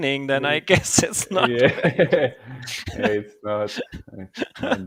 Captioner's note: laughing